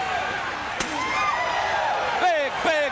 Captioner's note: crowd cheering